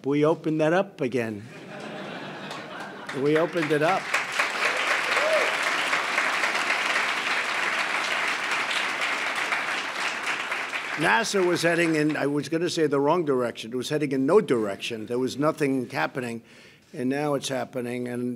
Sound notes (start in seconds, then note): 1.5 laughter; 4.8 applause